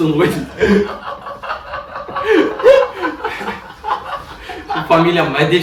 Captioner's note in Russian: Смех